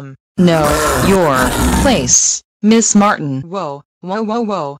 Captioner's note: snow leopard growling